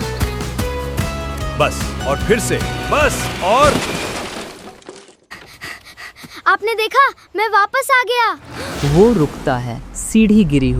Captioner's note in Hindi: भारी आवाज़ / सीढ़ी गिरने की आवाज़